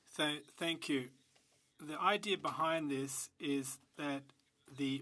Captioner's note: speaking French